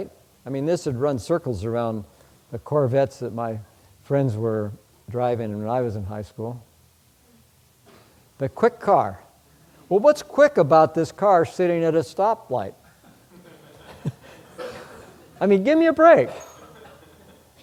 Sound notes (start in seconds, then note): 12.9 audience, chuckle